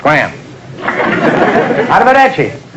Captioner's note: audience laughter